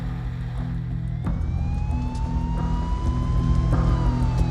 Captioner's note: siren wailing